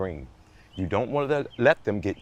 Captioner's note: birds twittering distantly